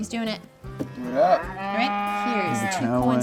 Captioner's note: cow moos